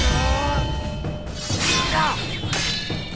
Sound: grunting

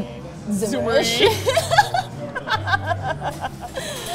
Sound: both laughing

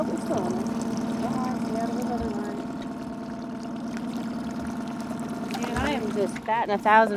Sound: winch motor running

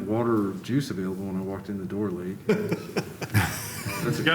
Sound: laughter

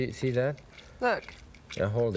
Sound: lemon squeezing

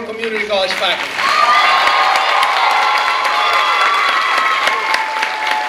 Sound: clapping and cheering

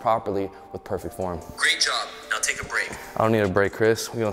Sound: recorded app voice

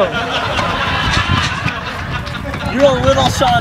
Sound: audience laughing

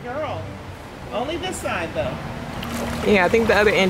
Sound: splashes

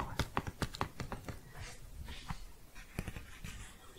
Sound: tapping

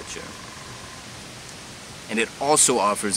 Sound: woodpecker drumming

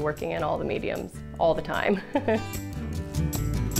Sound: laughs

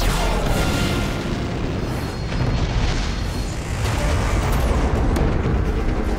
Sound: explosion

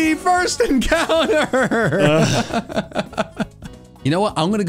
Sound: laugh

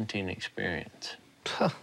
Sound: scoffing

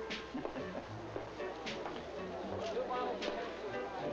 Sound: laughing

